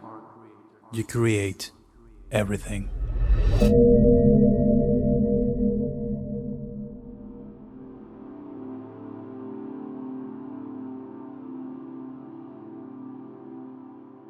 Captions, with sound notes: You create - - everything. [Gong sound] [Ambient music fades in]